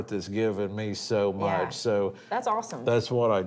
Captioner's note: none